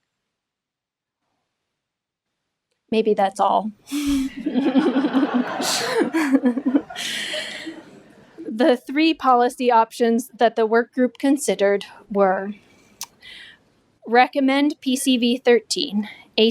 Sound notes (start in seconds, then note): 4.0 laughing